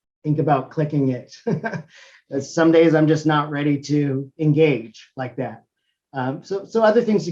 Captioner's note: laugh